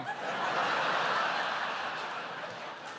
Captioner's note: laughter